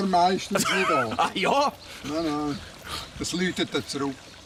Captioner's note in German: Lachend